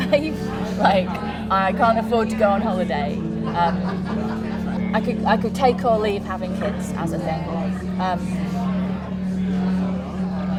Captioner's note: laughs